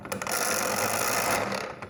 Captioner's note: grinding sound